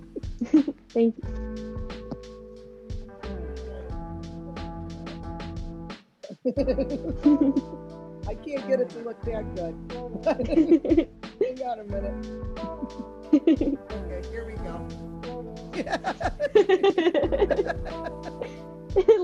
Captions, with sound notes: - Thank you. - Let me try to draw mine out. (both chuckles) I can't get it to look that good. Hang on a minute. Okay. Here we go. (both laughing)